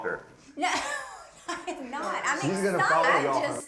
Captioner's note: laughing